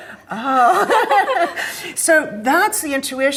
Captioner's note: laugh